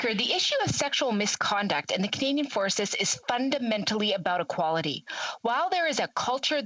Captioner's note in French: voix de l'interprète